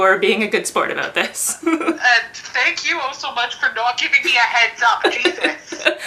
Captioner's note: giggles